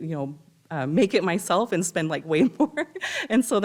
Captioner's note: laughs